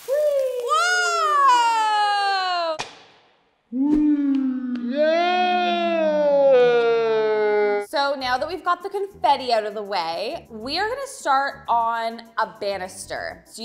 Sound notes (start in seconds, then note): 0.0 popping sound effect; 2.7 popping sound effect